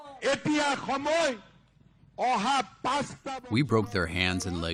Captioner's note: through translator